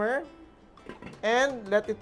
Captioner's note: knock